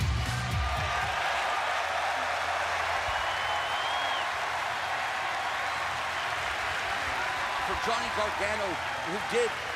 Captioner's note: crowd cheering